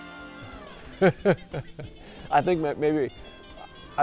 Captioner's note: laughing